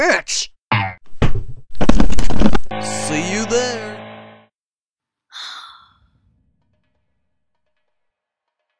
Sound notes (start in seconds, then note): 5.3 sigh